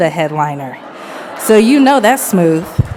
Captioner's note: audience laughs